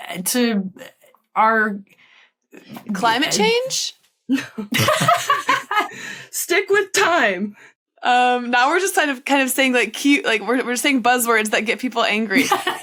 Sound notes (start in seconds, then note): 4.4 chuckles; 4.4 laughs heartily